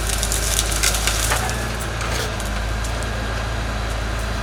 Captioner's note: wood cracking